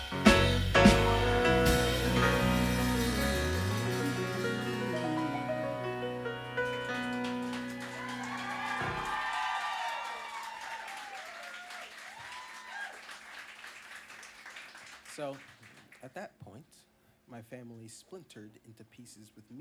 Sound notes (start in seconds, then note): 7.5 applause